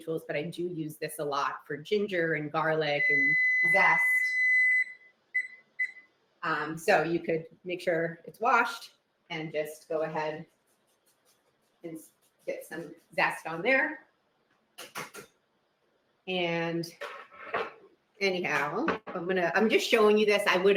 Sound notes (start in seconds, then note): 4.3 oven beeps